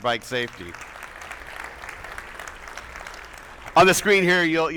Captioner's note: attendees applauding